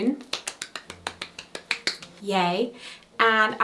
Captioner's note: clapping